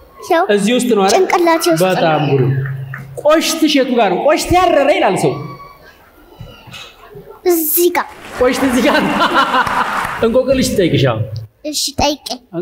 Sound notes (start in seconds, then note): 8.5 laughter